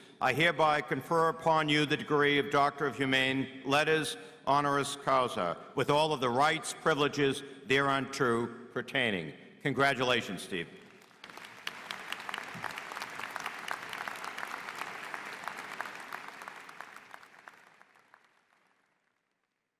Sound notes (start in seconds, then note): 10.8 applause